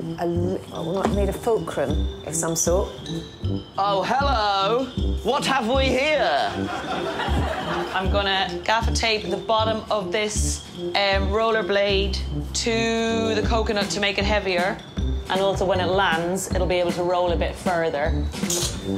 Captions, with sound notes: I need a fulcrum of some sort. Oh hello. What have we here? [audience laughs] I'm gonna gaffer tape the bottom of this roller blade to the coconut to make it heavier and also when it lands it'll be able to roll a bit further.